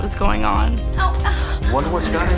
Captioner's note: groans